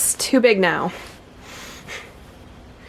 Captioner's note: quick sigh